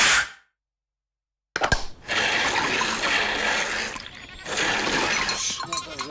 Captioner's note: animal bells ring